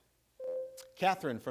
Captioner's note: buzzer rings